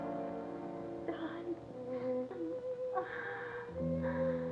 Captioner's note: gentle sorrowful music; groans